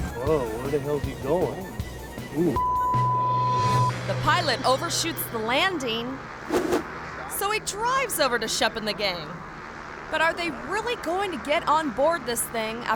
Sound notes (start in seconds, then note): 2.6 beep